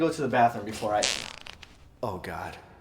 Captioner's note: farting